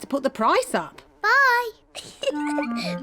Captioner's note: giggles